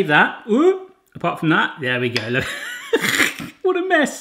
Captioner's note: laughs